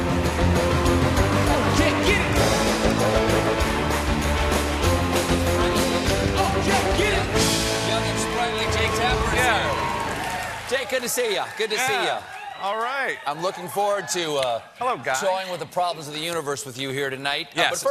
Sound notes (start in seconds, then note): 0.0 band playing; 0.0 cheers and applause